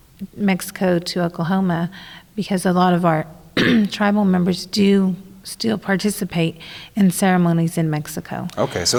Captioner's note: clears throat